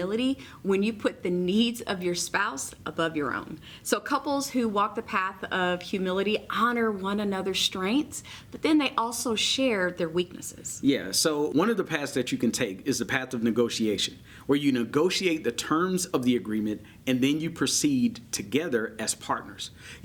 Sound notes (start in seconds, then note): none